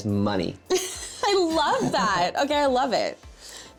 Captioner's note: laughs